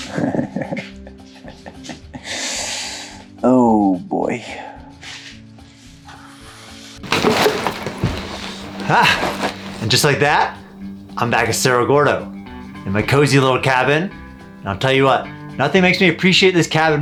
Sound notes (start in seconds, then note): 1.6 chuckles